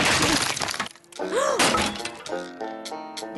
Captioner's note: gasps